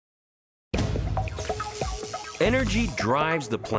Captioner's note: upbeat music; electricity buzzing